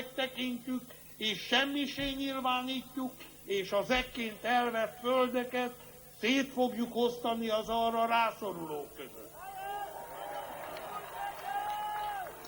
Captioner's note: applause